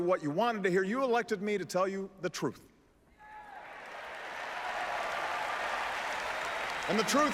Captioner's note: applause